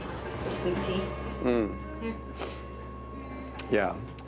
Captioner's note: sniffles